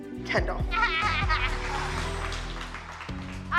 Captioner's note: laughs